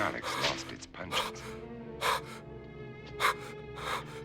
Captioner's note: fearfull gasps